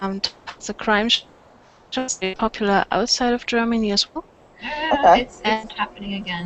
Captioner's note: mic starts making noises